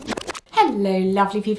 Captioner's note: rewind sound